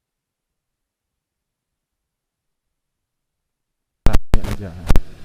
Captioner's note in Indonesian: Mulai konslet, kresek-kresek